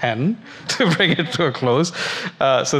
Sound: laughs

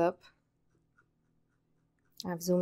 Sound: mouse wheel scrolling

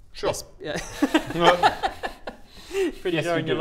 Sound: judgemental laughter

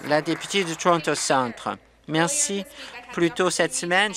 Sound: some Applause

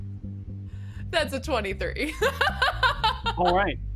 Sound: laughs

